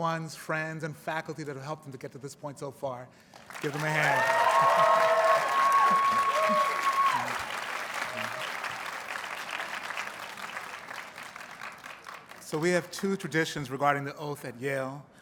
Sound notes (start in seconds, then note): 6.9 audience cheers and applauds